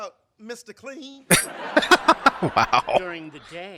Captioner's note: laughing